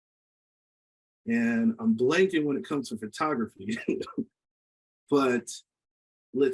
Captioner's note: laughs